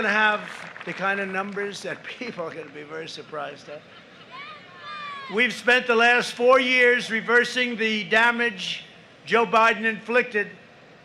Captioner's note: applause